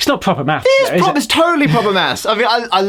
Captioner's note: laughs